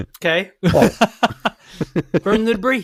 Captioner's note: laughing